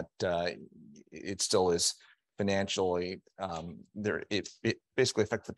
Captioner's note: stammering